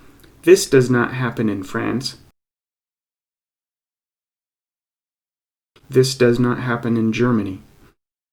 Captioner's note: pause